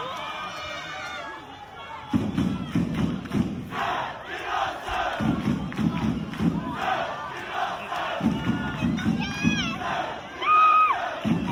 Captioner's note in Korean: 짝짝짝 짝짝